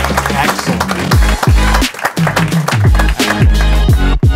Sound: audience clapping; upbeat music

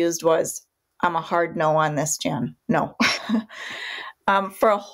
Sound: laughs

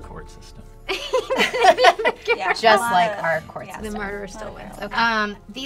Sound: laughter

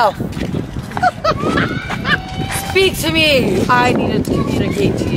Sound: girl laughing

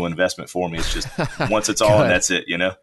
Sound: laughs

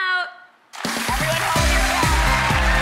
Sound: crowd applauding; upbeat music

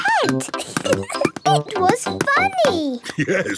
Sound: giggling

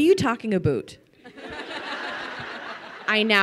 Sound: crowd laughing

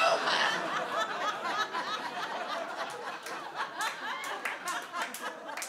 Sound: audience laughs and applauds

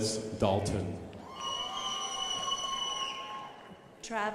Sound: crowd applauding

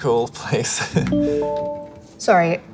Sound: phone alerting

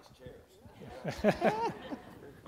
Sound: laughter

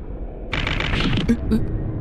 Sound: repeated clatter

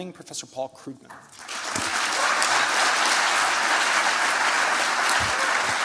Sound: applause

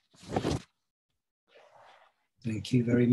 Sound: paper shuffling

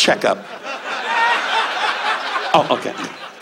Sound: audience laughs

